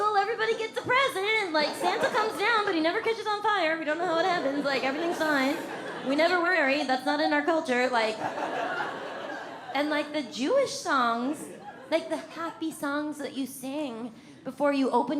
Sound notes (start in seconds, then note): 8.0 audience laughs